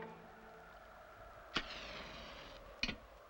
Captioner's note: wind howls softly; match sizzles